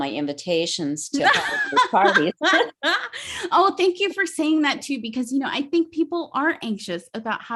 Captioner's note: laughs